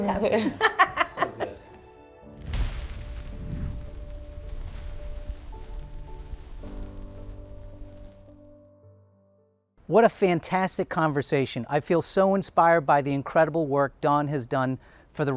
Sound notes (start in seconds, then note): 0.0 laughing; 2.2 fire crackling; 6.4 gentle music